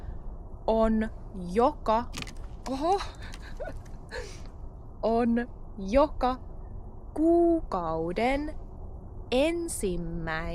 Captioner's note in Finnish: naurua